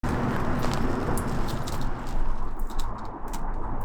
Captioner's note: wind whistling